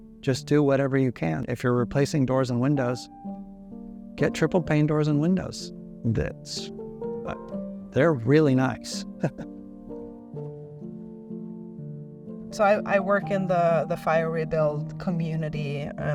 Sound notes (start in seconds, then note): 9.1 laughs; 10.0 gentle music